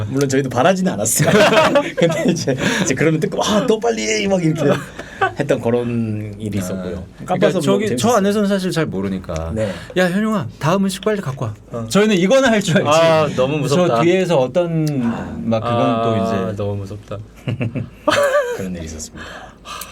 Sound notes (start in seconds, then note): 17.4 laughing; 19.2 sigh